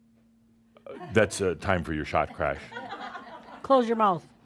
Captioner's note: some chuckles